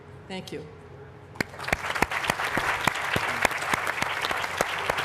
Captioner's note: applause